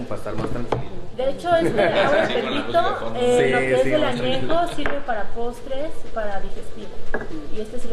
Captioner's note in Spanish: voces/risas; risas